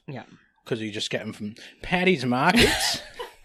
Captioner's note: australian accent